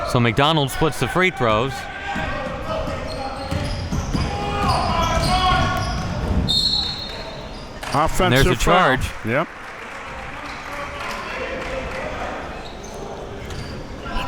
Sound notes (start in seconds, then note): 2.5 coaches yelling; 6.5 whistle blowing